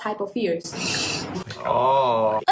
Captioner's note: breathes in